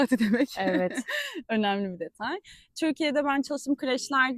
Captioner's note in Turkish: kahkaha